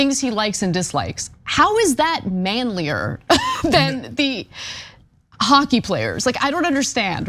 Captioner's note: laugh